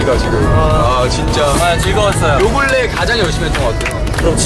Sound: clapping for who played so passionately

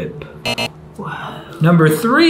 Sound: wrong answer buzzer

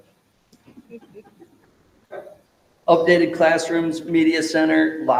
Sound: members laughing

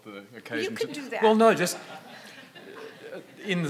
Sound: audience laughing

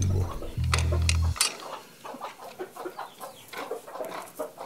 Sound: chickens cluck

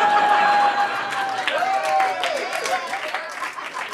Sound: audience laughs and cheers

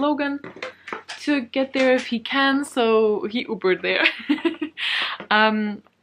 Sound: laughs

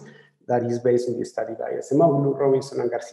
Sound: speaking in foreign language

